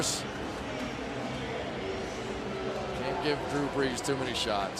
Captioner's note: pa announcement